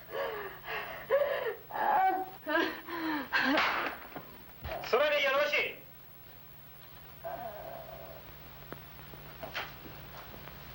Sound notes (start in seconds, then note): 4.6 speaking foreign language; 7.2 crying